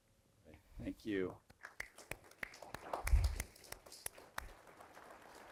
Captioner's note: applause